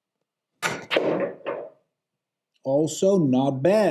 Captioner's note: balls clacking